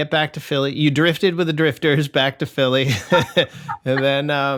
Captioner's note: laughter